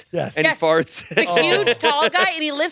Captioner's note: laughs